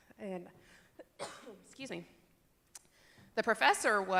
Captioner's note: cough